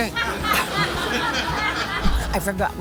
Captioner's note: audience laughing